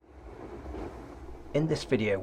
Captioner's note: water fountains splashing